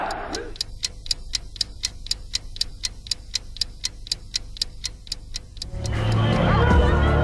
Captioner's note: tick-Tock